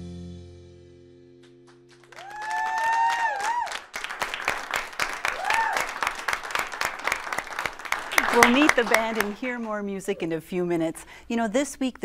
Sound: applause

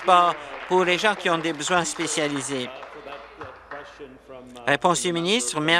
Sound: applause

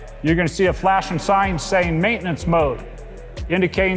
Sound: none

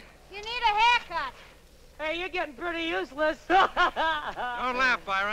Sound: laughs

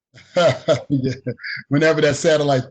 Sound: chuckling

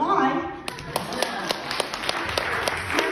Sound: laughter and continued applause until off the stage

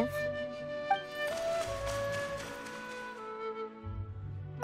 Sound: pitter-patter

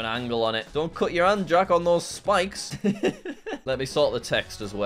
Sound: laughs

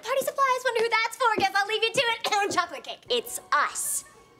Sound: coughing

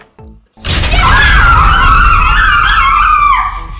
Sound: kids cheering

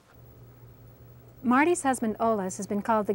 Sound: voiceover

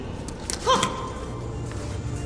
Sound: Steevo gasps

